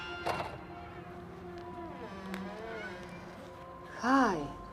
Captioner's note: door creaking